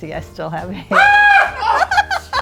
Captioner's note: screams